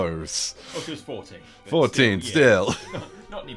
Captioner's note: laughs